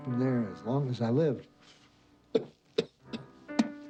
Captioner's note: coughing